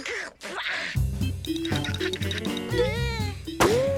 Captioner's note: Milo grunts; Tucker giggles; upbeat jazz music; Milo whimpers